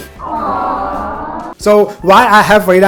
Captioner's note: aww sound